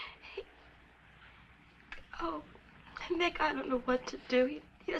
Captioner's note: none